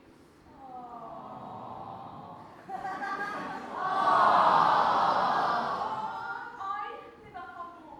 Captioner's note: audience awws, laughs and then awws louder